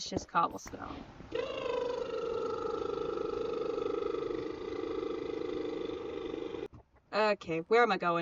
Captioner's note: cartoony helicopter sound...I guess??????